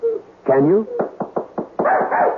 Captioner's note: knocking